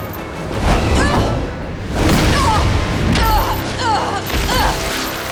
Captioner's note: grunting